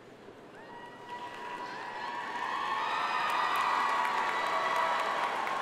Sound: audience cheering and applauding

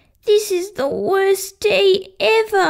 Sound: none

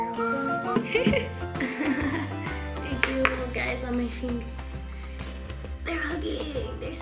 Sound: laughs

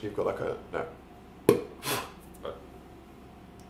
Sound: blows

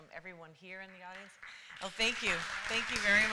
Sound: applause

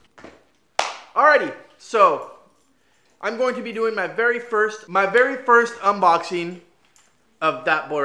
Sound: clap

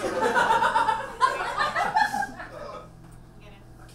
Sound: audience laughs

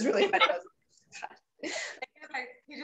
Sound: laughs

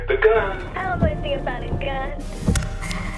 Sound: cellphone; footsteps

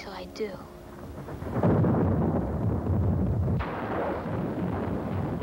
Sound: thunder crashing

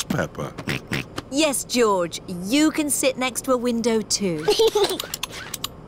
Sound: snorts; giggles

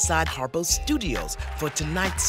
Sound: applause

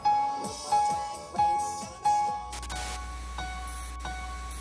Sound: theme music; static

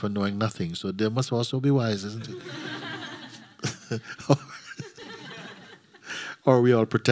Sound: laughter

